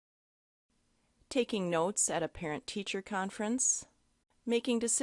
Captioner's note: voiceover